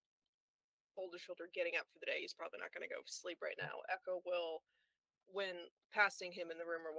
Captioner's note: none